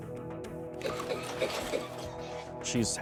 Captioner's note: coughing